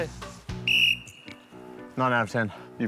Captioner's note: whistle blows